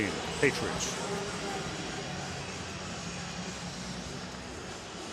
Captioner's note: pa announcement